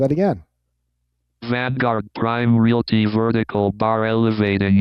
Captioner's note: automated Voice